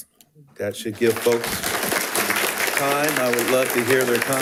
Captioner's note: attendees applauding